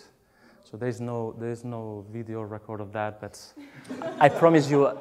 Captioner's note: laughs